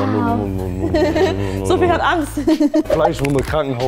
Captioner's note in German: Lachen